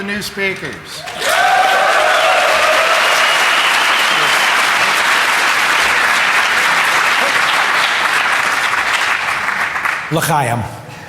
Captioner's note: applause